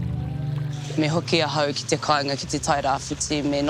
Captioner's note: speaks te reo māori